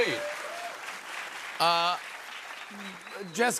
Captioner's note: cheers and applause